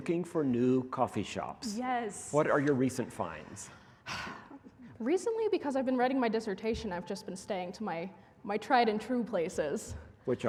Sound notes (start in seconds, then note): none